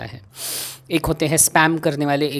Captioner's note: breathes in